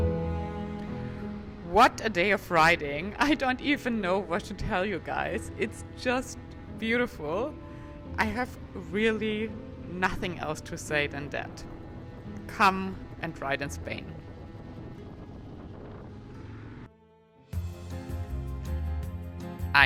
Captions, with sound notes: - What a day of riding, I don't even know what to tell you guys, it's just beautiful. I have really nothing else to say than that. Come and ride in Spain. (wind whooshing) (upbeat music)